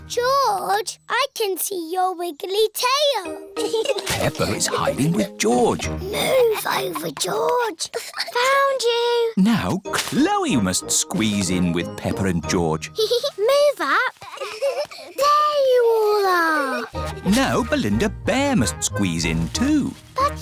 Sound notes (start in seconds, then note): 0.1 snorts; 6.5 whispers; 14.1 peppa giggles